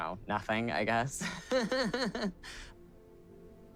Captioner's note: laughing